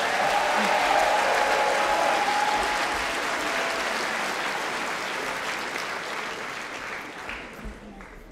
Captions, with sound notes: So if we want Jeremy in Downing Street no ambiguity. Campaign to remain. Thank you. (Applause)